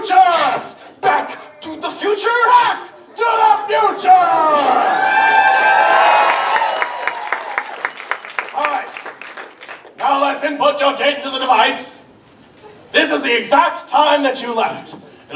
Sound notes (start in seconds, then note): 4.8 audience cheers and applause